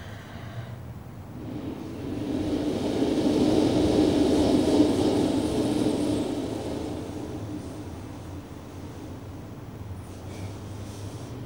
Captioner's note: blows into the microphone